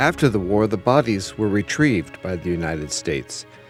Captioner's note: non-english speech